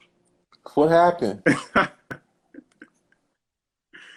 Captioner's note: laughs